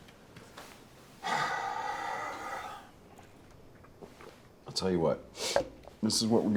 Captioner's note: sighs heavily